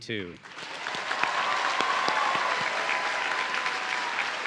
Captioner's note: audience cheering